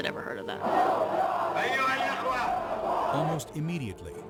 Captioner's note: crowd chants in foreign language